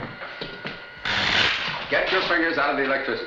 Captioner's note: electricity zapping